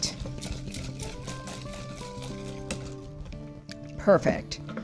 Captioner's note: whisk swishing